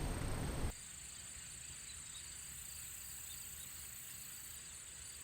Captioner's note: insects buzzing